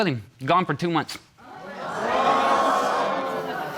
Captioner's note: audience gasps